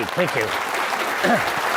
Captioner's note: clapping